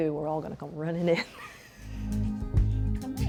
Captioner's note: laughter